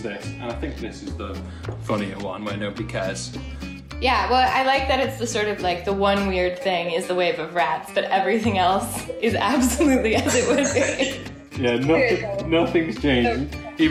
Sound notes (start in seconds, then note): 9.1 both laughing